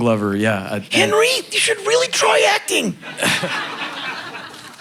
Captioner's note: crowd laughing